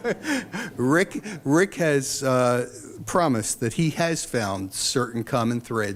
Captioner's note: laughs